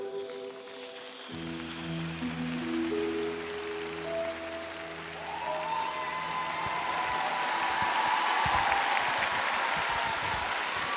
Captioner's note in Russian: аплодисменты